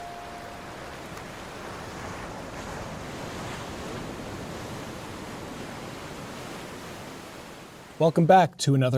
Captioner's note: waves crashing